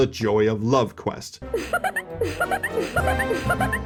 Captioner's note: adolescent schoolgirl giggling